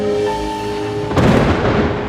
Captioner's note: lightning cracks